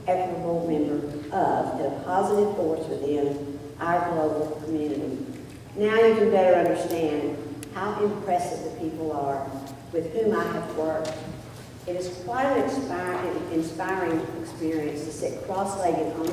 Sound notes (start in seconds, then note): none